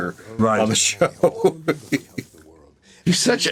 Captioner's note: laughs